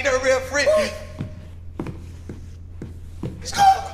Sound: footsteps

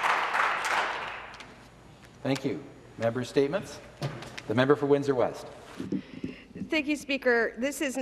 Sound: some Applause

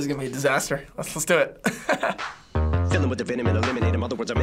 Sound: laughs

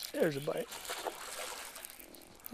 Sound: splash

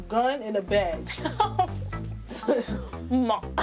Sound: laughs

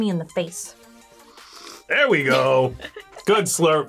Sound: slurps

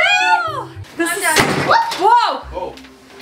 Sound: door bangs

